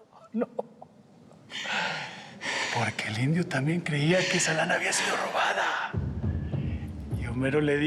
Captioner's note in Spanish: riendo